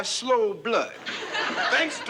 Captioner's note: laughter